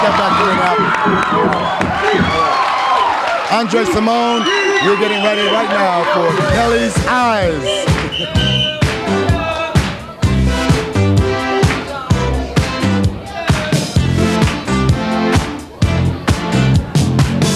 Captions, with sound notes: (applause) Andre Cymone we're getting ready right now for Kelly's Eyes